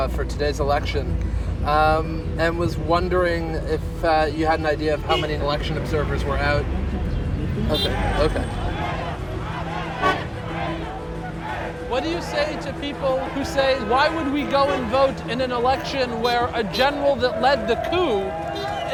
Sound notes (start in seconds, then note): 8.4 crowd chanting in Arabic